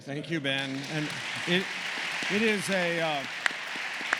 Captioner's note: applause